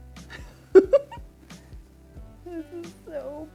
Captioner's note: laughs